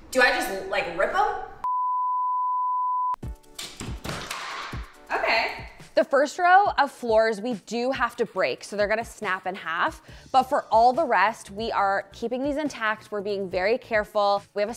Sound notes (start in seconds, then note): 1.7 monitor beeps; 3.3 upbeat music; 3.9 board thuds